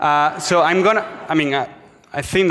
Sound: audience laughs

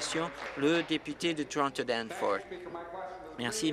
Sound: applause

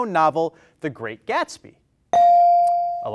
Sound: bell rings

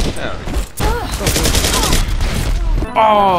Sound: rapid Gunfire

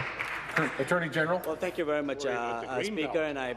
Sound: applause

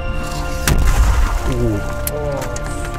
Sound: mortar shelling starts

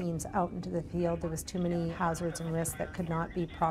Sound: voiceover

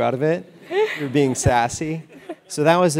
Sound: laugh

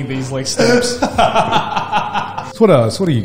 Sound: laughs

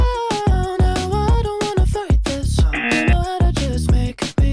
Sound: buzzer rings

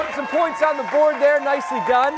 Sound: cheers and applause

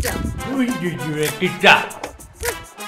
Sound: tongue spasm

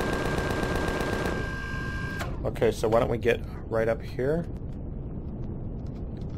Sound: machine guns stop

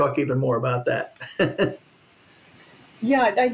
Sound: laughs

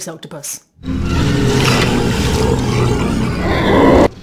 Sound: Space Octopus Growling

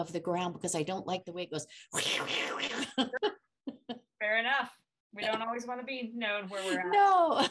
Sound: makes scratching sound

